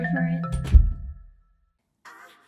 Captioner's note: door shuts